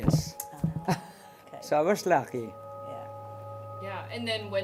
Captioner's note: laughs